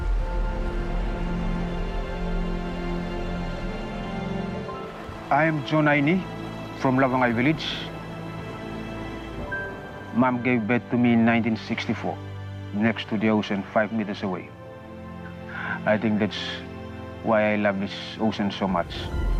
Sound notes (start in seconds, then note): 0.1 music and beach sounds; 8.6 natural sounds continue